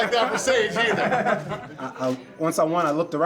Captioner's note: laughing